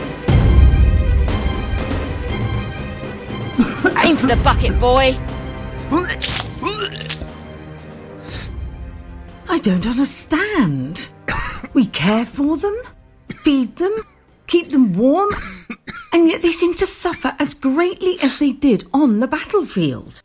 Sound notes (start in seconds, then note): 3.5 coughing; 6.0 vomiting